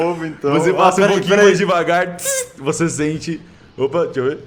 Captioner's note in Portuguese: bzzzz